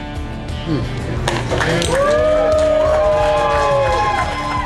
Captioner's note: crowd cheering